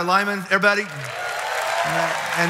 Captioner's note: audience applauds